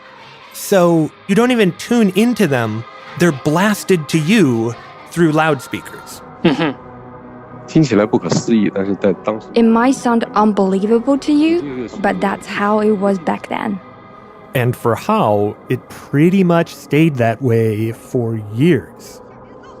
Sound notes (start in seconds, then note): 7.2 speaking Mandarin Chinese